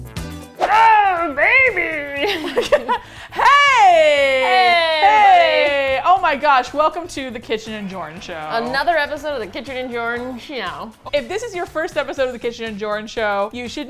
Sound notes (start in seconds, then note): 1.5 throatily; 1.9 both laugh